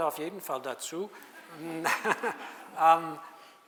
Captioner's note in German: lacht